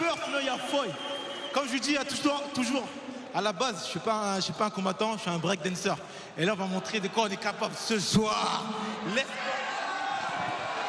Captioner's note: cheers and applause; speaking foreign language